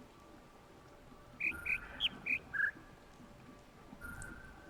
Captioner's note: bird chirps ˧ ˧ ˥ ˧ ˩